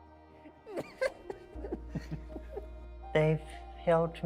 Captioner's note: laughs